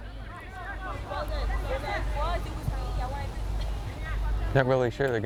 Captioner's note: players shouting